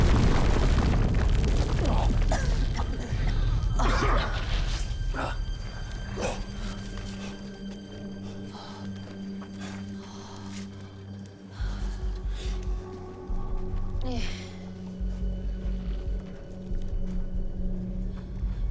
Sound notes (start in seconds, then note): 1.8 coughing